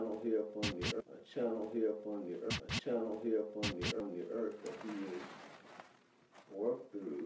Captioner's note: record scratch